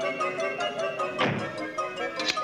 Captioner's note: door slams shut